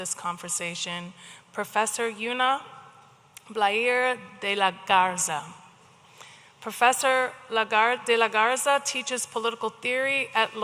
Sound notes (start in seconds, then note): none